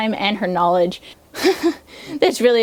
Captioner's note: laughs